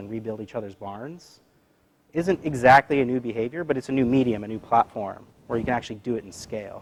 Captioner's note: none